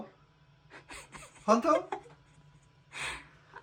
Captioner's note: laughs; laughs